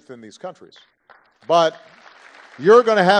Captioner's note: applause